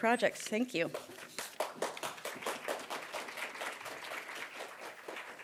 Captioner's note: applause